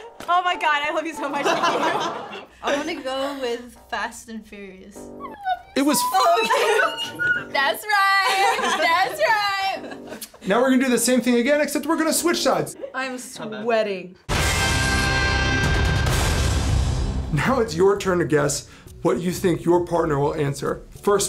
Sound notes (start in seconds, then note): 5.1 squeaks; 14.2 rock music